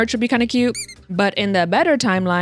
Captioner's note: squeek